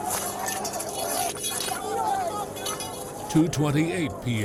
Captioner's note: scuffling